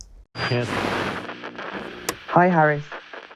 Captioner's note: radio buzzing